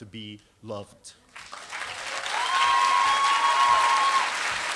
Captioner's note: applause